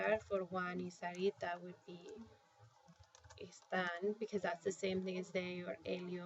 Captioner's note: spanish